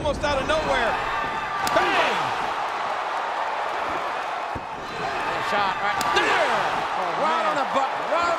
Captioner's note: applause